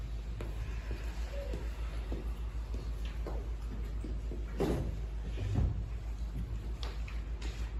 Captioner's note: inhale; exhale